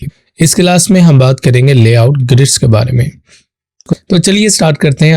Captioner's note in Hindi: नाक से की जाने वाली आवाज़